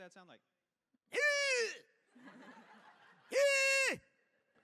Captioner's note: grunting sound